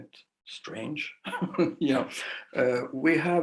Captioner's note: laughing